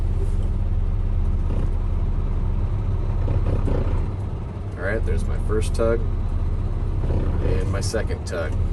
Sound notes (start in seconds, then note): 2.7 trailer brakes engage; 6.9 trailer brakes engage